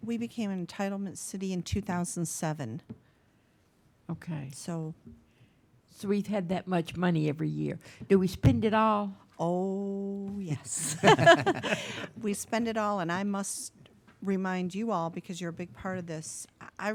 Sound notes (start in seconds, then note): 10.7 laughing